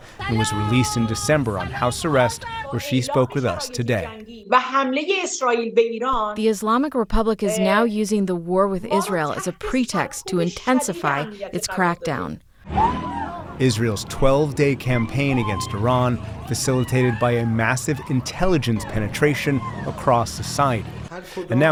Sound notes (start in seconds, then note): 6.6 through translator